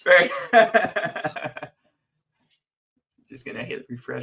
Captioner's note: laughs